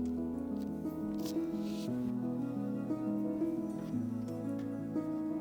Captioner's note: paper rustles